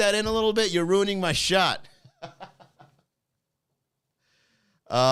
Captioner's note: laughing